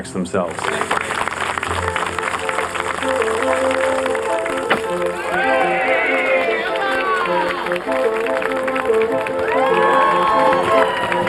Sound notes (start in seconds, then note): 3.8 cheering